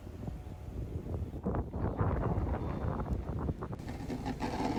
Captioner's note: wind blows